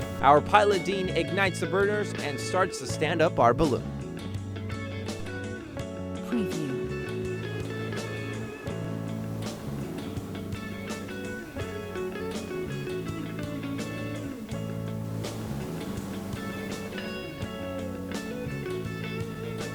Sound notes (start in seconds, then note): 0.0 rock music; 6.3 rock music; 15.4 fire blowing